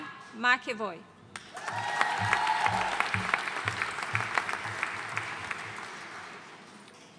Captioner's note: audience cheering and applauding